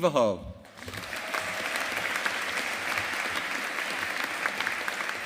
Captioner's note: audience applauding